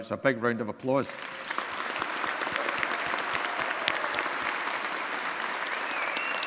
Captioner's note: audience applauding and cheering